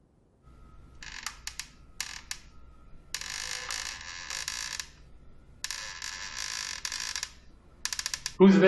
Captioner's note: door creaking